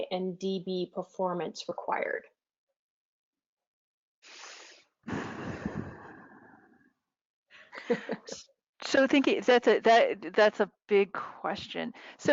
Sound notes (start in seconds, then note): 7.7 laughing